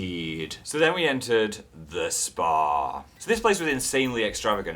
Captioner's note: spa receptionist voice; normal voice